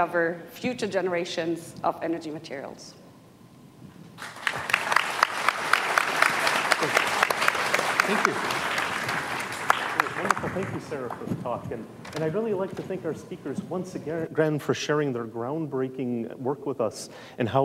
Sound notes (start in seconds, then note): 4.2 audience applauding